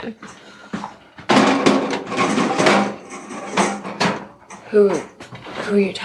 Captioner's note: pots rattling